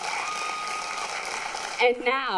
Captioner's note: applause